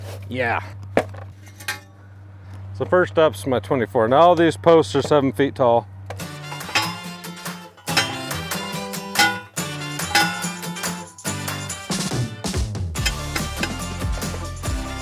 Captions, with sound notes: Yeah, so first ups my 24. Now all these posts are seven feet tall. (upbeat music) (post pounder clanging)